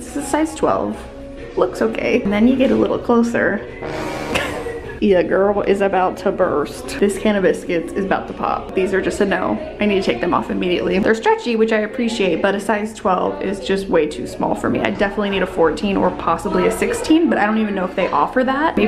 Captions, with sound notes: It's a size 12, looks okay. And then you get a little closer. (dramatic music) (laughs) Your girl is about to burst. This can of biscuits is about to pop. These are just a no. I need to take them off immediately. They're stretchy, which I appreciate, but a size 12 is just way too small for me. I definitely need a 14 or possibly a 16, but I don't even know if they offer that.